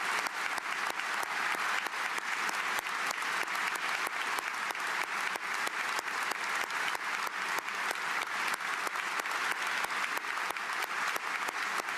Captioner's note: applause